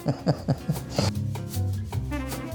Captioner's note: laughs